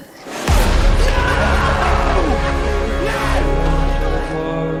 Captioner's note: various screams and no's; echo